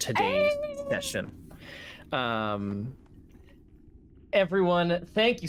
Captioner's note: excited squeal